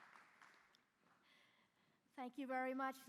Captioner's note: applause